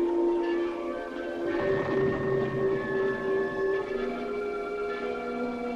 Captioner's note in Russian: доносятся звуки взрывов издалека